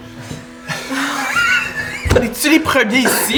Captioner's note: laughter and choking